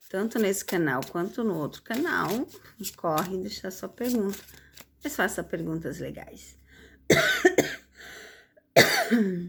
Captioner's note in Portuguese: tosse